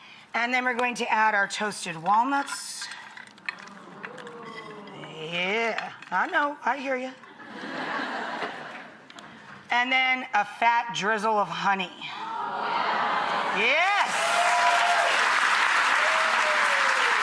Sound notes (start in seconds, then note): 3.6 audience oohs in excitement; 7.4 audience laughs; 12.3 audience ahhs in excitement; 13.8 audience applause